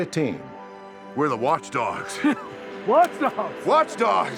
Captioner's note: laughs